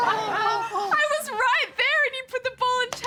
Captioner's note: laughs